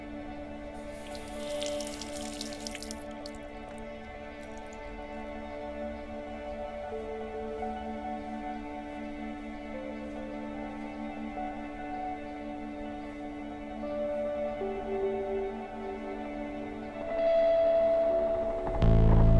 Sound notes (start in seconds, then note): 0.7 water running; 7.1 calm music